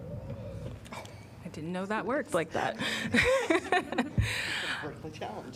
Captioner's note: laughter